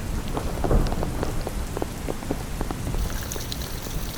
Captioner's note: thunder